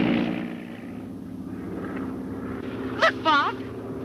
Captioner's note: plane droning